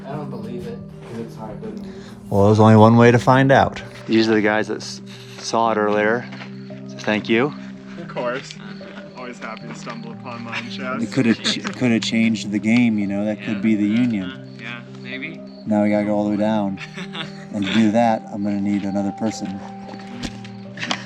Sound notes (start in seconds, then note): 16.7 both laughing